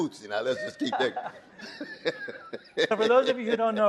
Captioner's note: laughs